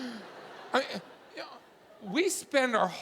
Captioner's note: audience laughing